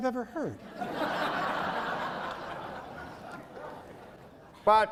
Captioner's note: laughing